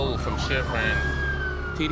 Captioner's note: sirens wailing